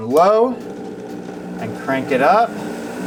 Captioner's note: blender grinding